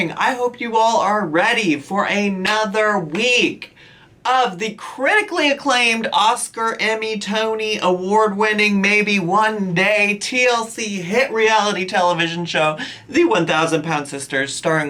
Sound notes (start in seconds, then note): none